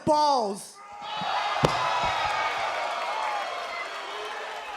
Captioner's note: crowd cheering